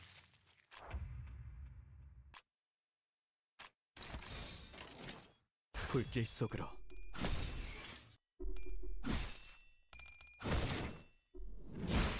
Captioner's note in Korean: 3차 스킬 소리